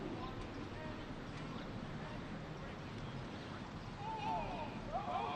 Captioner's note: military commands off mic